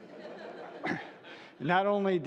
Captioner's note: laughter